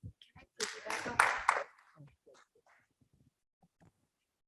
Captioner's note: people clapping